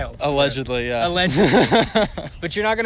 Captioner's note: laughter